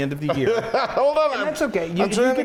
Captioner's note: laughs